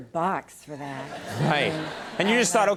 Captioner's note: audience chuckling